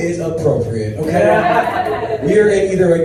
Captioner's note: audience laughs